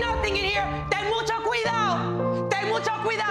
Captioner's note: speaking foreign language; dramatic music continues